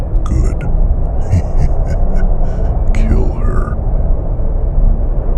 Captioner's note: soft laugh